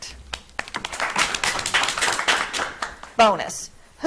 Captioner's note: audience clapping